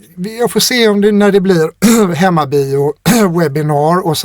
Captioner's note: clears throat